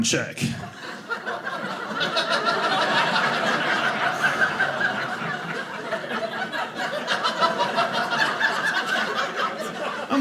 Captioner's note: audience laughing